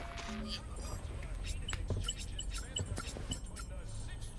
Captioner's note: footsteps